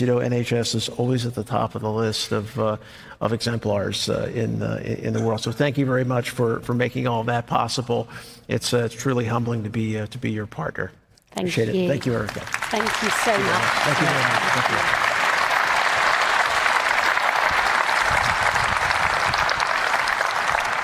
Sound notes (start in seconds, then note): 15.2 applause